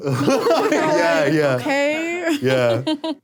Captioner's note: laughs